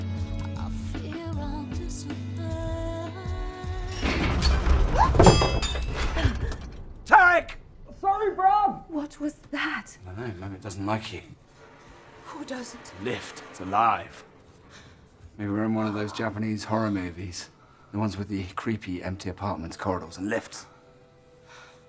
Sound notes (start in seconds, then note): 3.9 loud bang